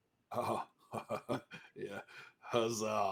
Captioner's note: laughs